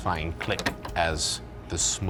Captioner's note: lock clicks